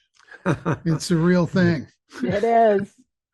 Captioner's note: chuckles